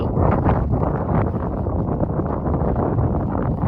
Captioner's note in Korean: 바람소리 주의